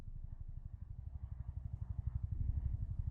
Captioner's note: none